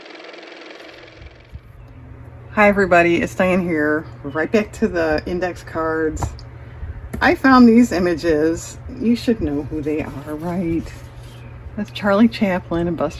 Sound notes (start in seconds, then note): 0.0 car motor